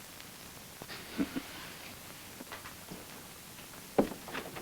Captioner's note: Bob chuckles